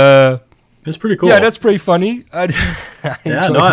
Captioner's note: laughs